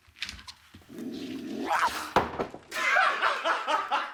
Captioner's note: growls, snarls; laughing